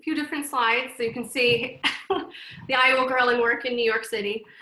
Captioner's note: laughs